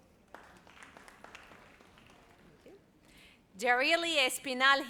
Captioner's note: audience applauds